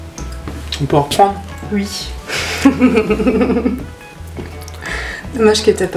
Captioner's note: laughs